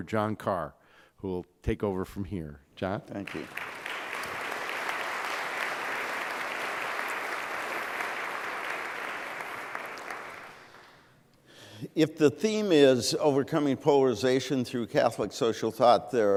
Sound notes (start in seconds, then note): 3.2 applause